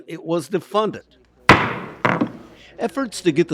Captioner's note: gavel slams down